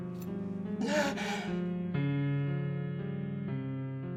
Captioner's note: gasping